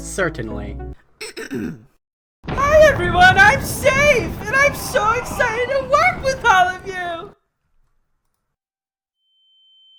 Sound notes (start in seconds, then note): 1.2 Safe clears her throat; 2.6 shouting